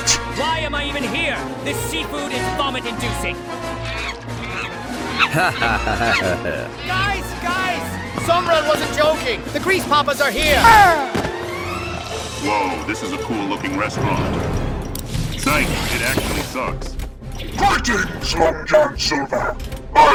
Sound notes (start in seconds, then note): 3.6 monkey noises; 5.2 Long John laughs like a silly billy